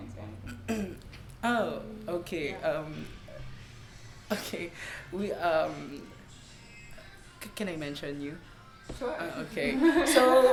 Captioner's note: laughs